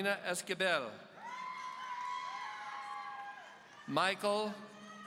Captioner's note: audience cheering